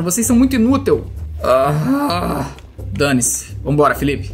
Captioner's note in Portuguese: resmunga